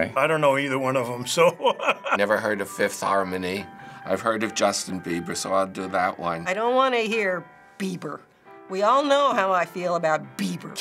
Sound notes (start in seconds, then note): 1.3 laughing; 6.4 spitefully